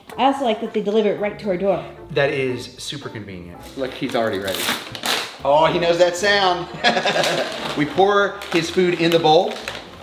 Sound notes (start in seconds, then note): 6.6 laughs